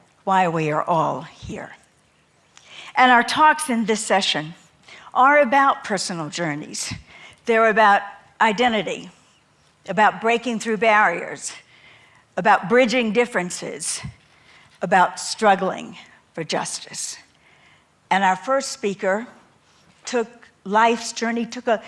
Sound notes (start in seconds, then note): none